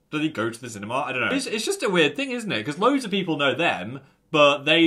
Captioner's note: none